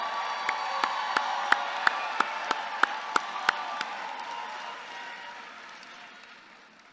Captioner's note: audience cheering and clapping continues